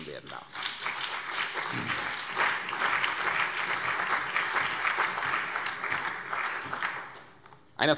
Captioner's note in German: Beifall CDU, BÜNDNIS 90/DIE GRÜNEN und SPD